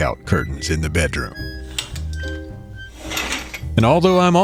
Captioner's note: SFX: closing curtains